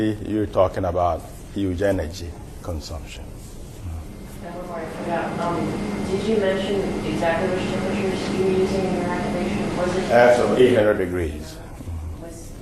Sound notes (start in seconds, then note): 4.4 students asking questions